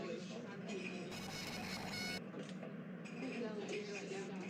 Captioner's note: credit card reader sound